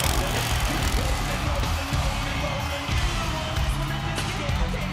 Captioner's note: motorcycle revving